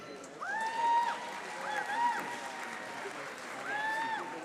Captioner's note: audience applauding